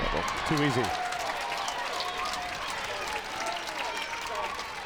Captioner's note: crowd applauds